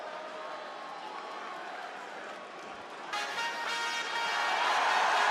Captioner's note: crowd yells